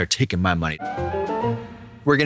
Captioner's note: whimsical chime